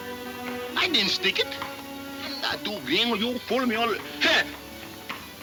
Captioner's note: mumbling in Spanish